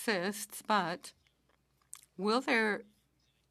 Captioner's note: speaking French